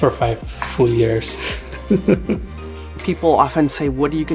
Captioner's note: laughs